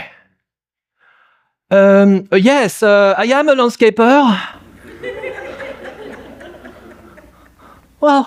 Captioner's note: laughter